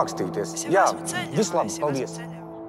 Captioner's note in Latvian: Zanes balss telefonā